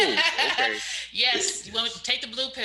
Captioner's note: laughs